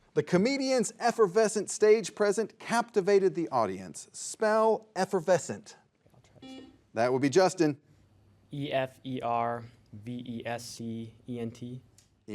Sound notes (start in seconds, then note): 6.5 buzzer buzzes